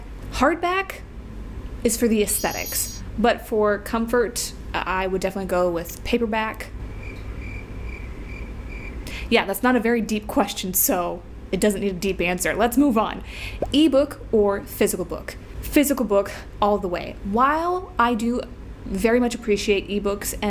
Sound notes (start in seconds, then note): 7.8 crickets